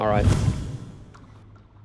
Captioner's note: whoosh